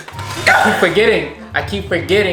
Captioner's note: dramatic music; shouts